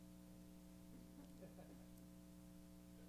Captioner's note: laughter